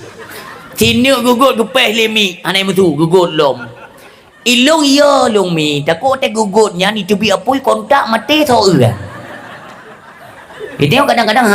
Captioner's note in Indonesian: tertawa